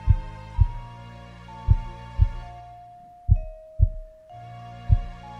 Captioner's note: heart beating